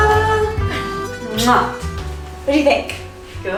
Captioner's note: kissing